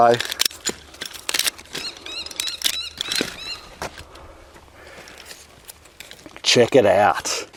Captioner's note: trimmer clicking; bird chirping